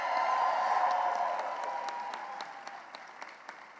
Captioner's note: cheering and applause